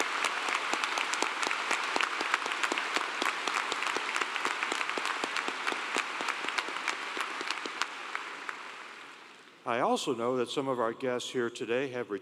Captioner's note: applause